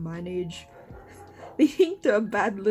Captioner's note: laughs